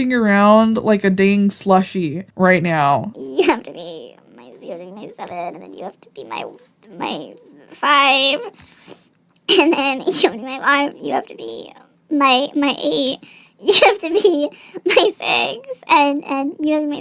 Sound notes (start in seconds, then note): 3.3 solving Sudoku mutterings